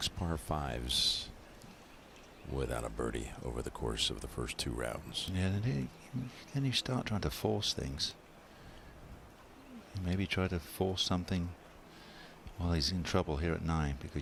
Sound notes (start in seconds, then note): none